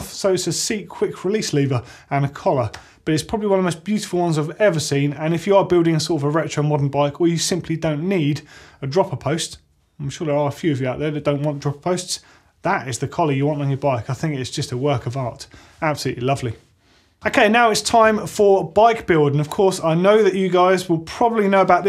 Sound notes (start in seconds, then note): none